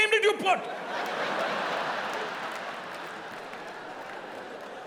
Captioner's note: audience laughing